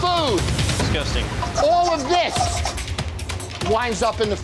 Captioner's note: scraping